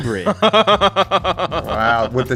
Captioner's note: laughs